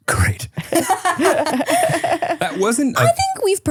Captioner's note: all laughing